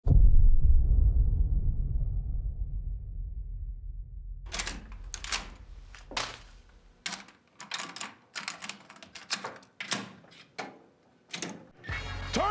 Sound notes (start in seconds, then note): 0.0 bass drum; 4.5 click of the cassette; 11.8 techno music